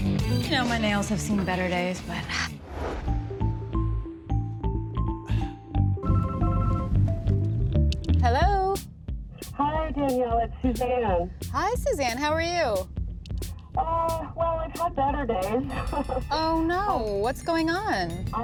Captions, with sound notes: You know, my nails have seen better days, but... [ Cellphone rings ] Hello? Hi, Danielle. It's Suzanne. Hi, Suzanne. How are you? Oh, well, I've had better days. Oh, no. What's going on?